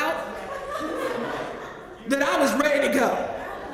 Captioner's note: laugh